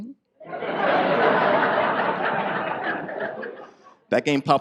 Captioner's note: audience laughs